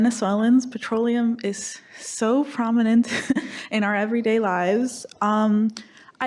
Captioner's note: laughs